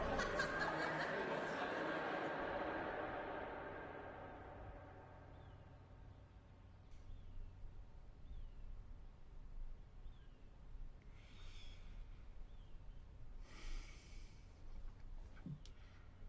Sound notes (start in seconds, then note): 2.0 crowd echoes out; 5.0 morning bird calls